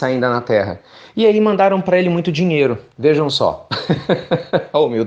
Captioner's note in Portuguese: risos